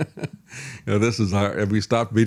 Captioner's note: laughs